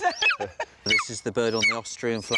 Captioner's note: laughing